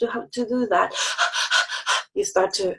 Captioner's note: exhales rapidly